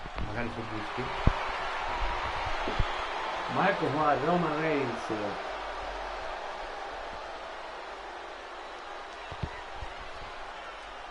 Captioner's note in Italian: Applauso